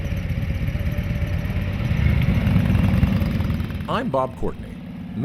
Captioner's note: motorcycle engine revving